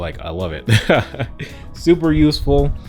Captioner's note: laughs